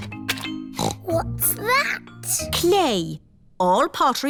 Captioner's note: snorts